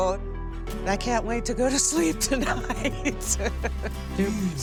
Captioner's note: laughs